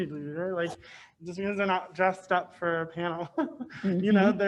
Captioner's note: laughs